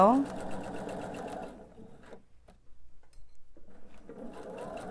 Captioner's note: sewing machine whirring